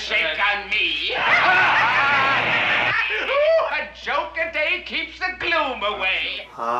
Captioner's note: laughing